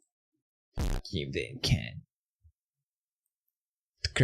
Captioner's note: nasally voice